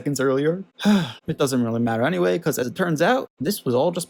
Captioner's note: sighs